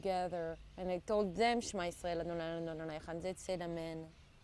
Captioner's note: hebrew